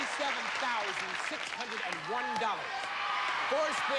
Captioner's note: cheers and applause